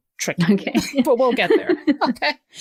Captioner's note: laughter